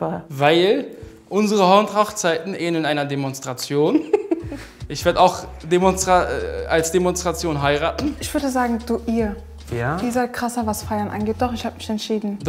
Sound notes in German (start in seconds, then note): 4.0 Lachen